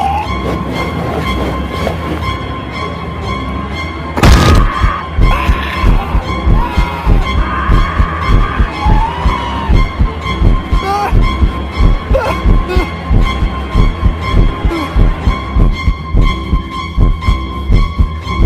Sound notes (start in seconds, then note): 4.3 scream